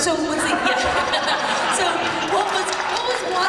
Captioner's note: applause and laughter